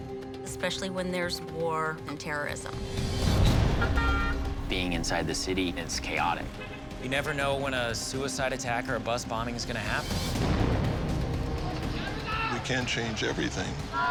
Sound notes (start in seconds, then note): 3.4 horn honks; 10.1 explosion; 13.8 yelling in native language